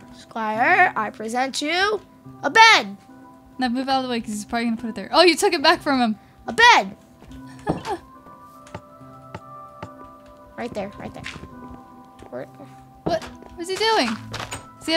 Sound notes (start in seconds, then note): 8.5 buttons clicking